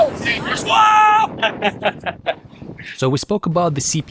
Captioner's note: laughter